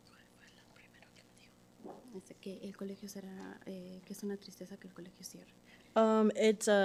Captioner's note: and interpreter speaking Spanish softly